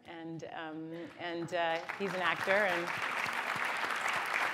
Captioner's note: applause